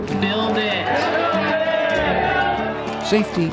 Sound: crowd cheering

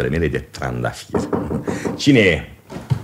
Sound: knocks on the door

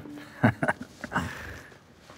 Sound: chuckles

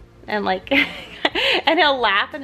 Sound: laughs

